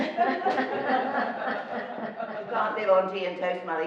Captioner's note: laughing